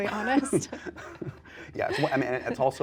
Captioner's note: chuckles